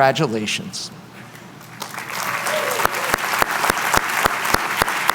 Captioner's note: applause